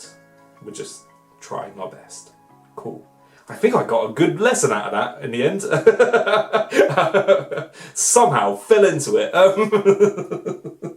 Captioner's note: laughs